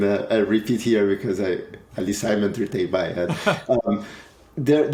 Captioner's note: speaks faintly